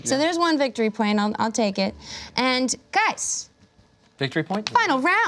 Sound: none

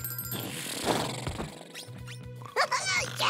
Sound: snoring

